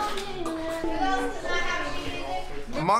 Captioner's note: people chattering